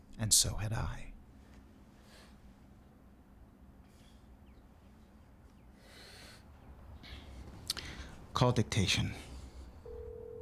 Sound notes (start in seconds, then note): 3.8 birds chirping; 7.6 Sam sighs; 9.8 phone beeps; 9.8 phone line ringing